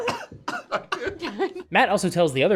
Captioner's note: laughter